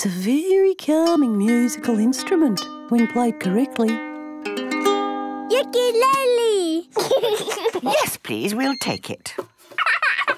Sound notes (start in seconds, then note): 4.9 gentle strumming; 6.9 giggling